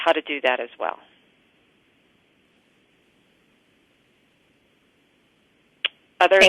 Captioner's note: pause